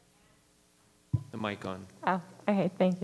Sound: microphone rattling

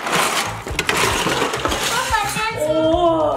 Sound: pieces dumping

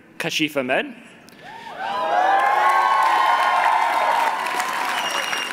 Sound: cheering

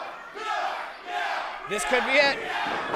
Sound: crowd

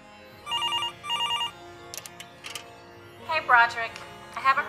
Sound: ringing

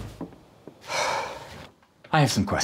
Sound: slam; sigh

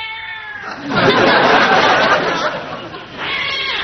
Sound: all: laughs

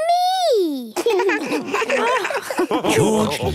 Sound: laughs

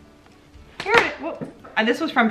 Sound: lipstick hitting table

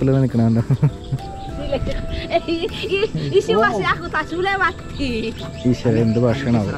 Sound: woman speaking Indonesian

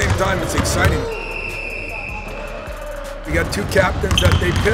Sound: whistle blowing

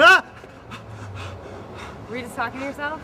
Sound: yelp

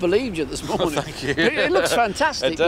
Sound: laughing

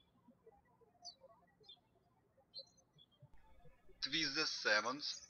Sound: birds chirping

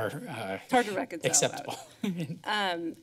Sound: laughs

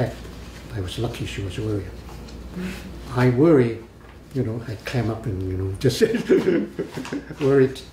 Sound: laughs

